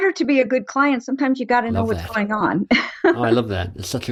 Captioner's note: laughs